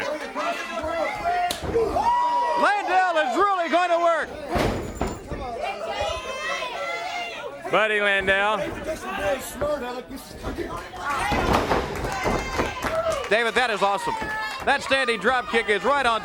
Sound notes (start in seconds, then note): 3.1 crowd cheering; 6.4 crowd chatter; 7.3 crowd cheering